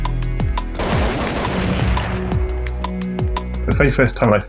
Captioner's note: dramatic music; gunshots blasting